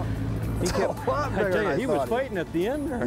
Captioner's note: laughing